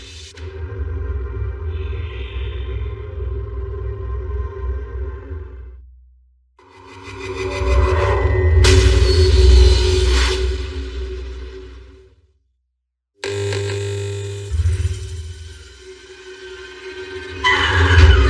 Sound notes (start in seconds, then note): 13.2 light buzuzzes; 15.8 eerie music